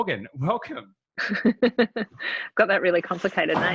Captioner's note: laughing